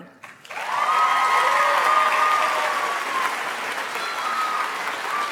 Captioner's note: audience applauds